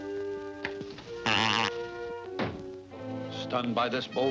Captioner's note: bird blows raspberry